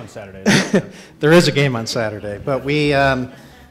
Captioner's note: chuckles